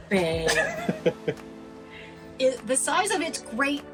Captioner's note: laughing